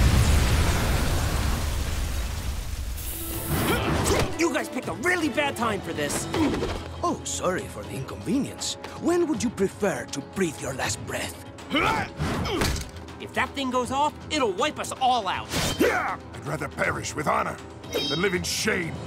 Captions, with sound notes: You guys picked a really bad time for this. Oh, sorry for the inconvenience. When would you prefer to breathe your last breath? [grunting] If that thing goes off, it'll wipe us all out. I'd rather perish with honor than live in shame.